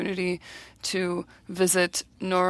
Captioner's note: speaking French